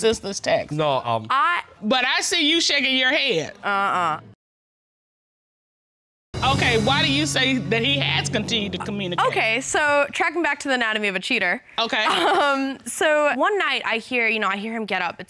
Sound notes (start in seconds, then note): 12.0 chuckles